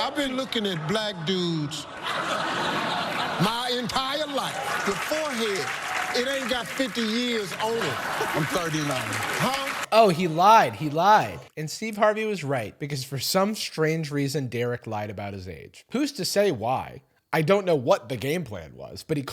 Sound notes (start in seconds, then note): 1.6 crowd laughing; 8.2 crowd clapping